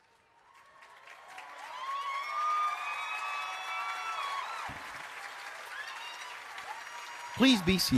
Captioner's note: applause